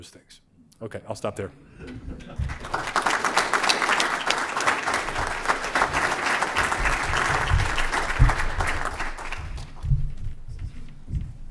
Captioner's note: applause